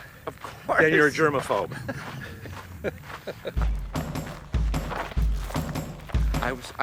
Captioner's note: laughs